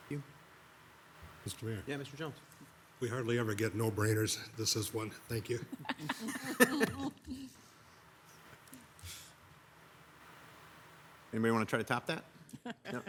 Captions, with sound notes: - Thank you. - Mr. Mayor. - Yeah, Mr. Jones. - We hardly ever get no-brainers. This is one. Thank you. (people chuckle) - Anybody want to try to top that? No?